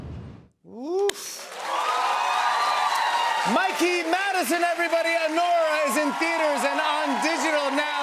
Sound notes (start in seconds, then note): 1.3 cheers and applause